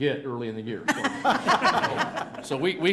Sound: laughter

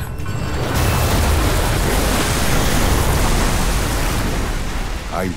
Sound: water gushing

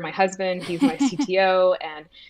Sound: laughs

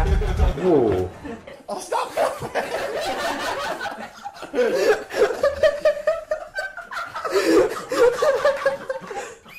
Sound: terrified giggling

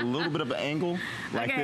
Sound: laughter

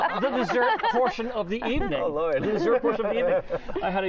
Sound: laughter

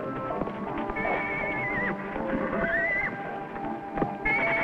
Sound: neighs

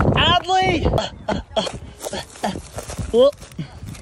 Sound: grunting

